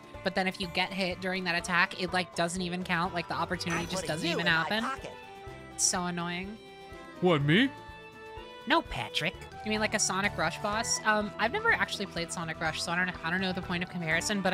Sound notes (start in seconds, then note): 7.1 Patrick Voice; 8.5 SpongeBob Voice